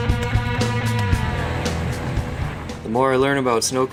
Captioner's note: car engine